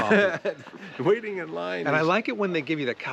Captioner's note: Paul laughs